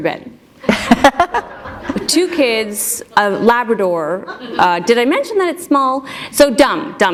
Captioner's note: laughter